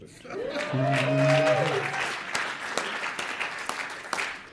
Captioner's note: audience cheers